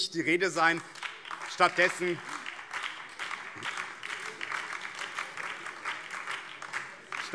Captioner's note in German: Beifall BÜNDNIS 90/DIE GRÜNEN